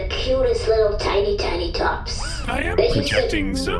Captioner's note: projection boot-up noise